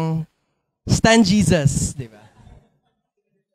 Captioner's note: laughter